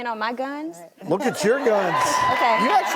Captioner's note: audience cheers